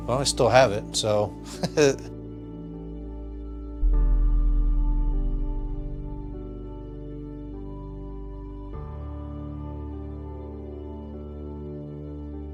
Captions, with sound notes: Well, I still have it, so. (laughs) (Christmas music)